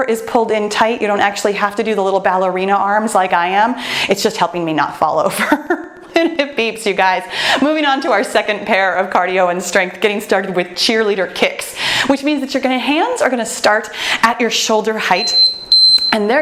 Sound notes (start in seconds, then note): 5.4 laughs; 15.2 timer beeps